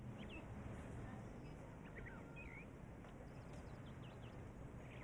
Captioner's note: birds chirping